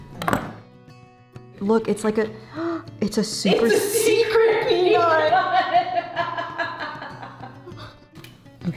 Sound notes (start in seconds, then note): 0.2 tool clacks; 2.7 gasps; 5.4 laughs